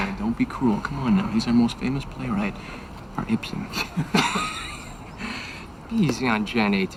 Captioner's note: laughs